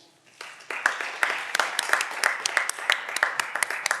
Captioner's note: audience applause